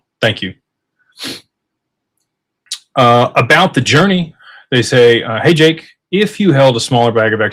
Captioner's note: snorts